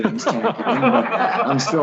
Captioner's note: laughs